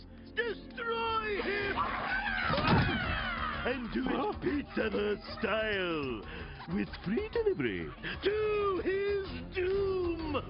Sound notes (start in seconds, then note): 1.3 battle cries